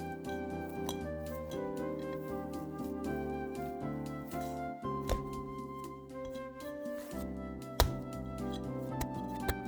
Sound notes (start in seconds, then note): 7.6 slap and fold